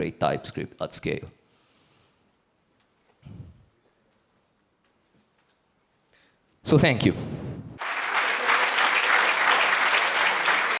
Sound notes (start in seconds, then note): 7.8 audience applauds